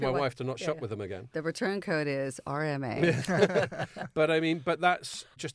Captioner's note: all laughing